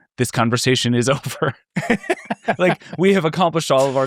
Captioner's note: people laughing